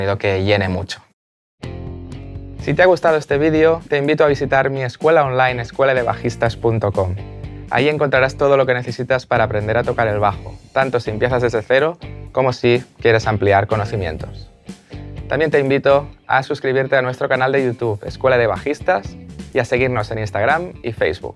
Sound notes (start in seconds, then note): 7.0 Spanish